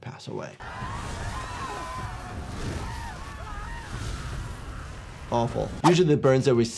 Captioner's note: people screaming; flames roaring